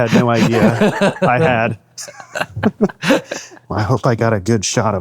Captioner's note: both laughing